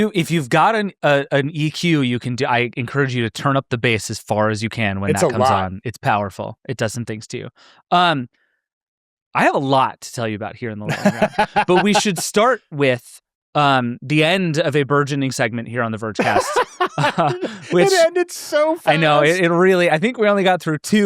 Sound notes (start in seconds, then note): 10.8 laughs; 16.2 laughs